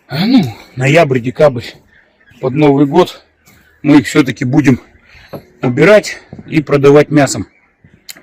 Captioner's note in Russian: откашливается